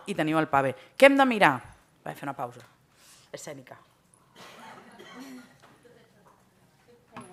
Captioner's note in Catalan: riures